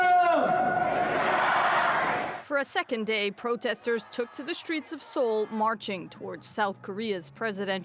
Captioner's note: chants